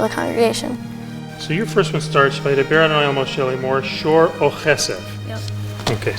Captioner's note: cantor speaks in hebrew